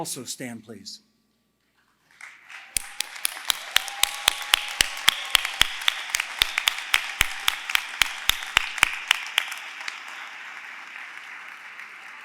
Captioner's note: applause